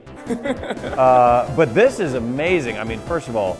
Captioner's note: laughs